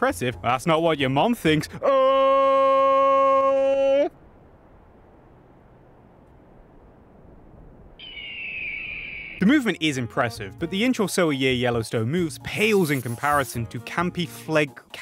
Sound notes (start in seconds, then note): 4.4 awkward silence. Nothing but the noises of the valley; 8.0 hawk caws